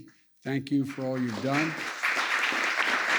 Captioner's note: applause